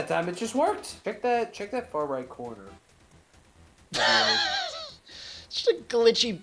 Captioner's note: laughs